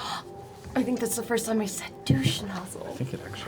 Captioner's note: gasps